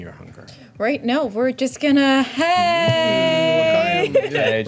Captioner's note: laughs